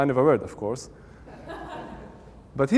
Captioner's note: audience Laughing